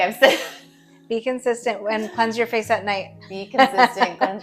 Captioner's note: laughing; laughing